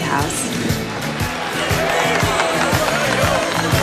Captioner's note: crowd cheering